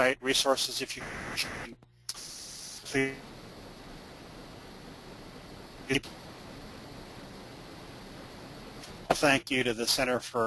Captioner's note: static